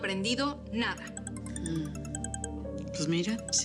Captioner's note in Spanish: suena el celular